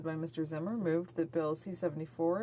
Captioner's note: speaking French